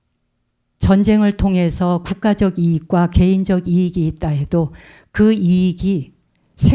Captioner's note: speaking in Korean